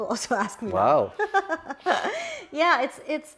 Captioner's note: laughs